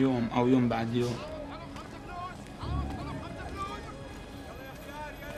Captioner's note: people calling in background